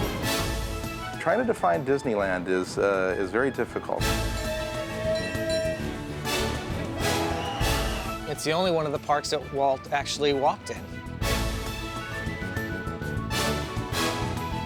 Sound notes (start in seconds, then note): 4.3 bell dings/whistle blows